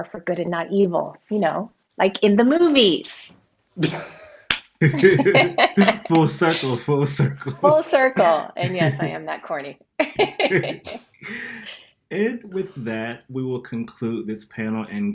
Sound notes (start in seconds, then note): 4.8 laughs; 10.0 laughs